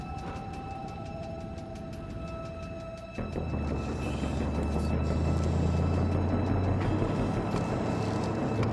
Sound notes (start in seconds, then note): 0.0 suspenseful music continues; 0.0 vehicle droning